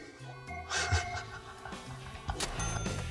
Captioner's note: chuckle